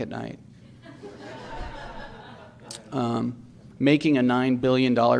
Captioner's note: audience laughs